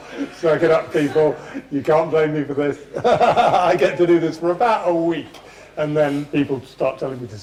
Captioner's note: laughs